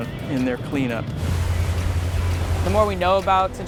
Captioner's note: boat motor rumbling